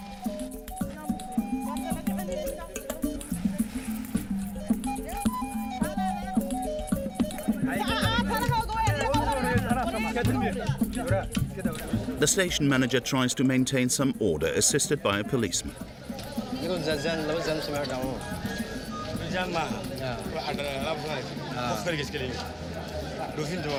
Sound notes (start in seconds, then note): 0.1 soft tribal music; 8.0 woman speaking foreign language; 19.5 both speaking foreign language